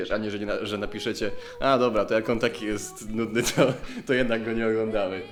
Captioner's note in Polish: śmiech